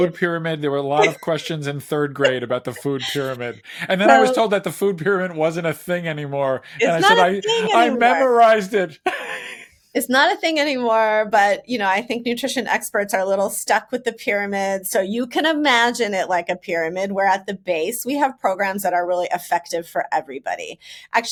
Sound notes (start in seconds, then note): 9.6 laughs